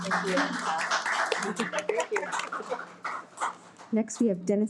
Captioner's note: audience clapping